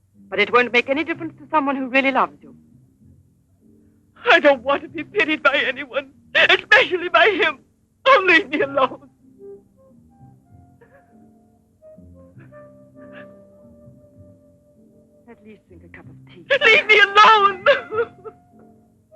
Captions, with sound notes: but it won't make any difference to someone who really loves you. - I don't want to be pitied by anyone, especially by him! Oh, leave me alone! - At least drink a cup of tea. - Leave me alone! (sobbing)